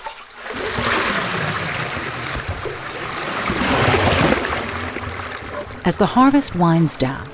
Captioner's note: water gushing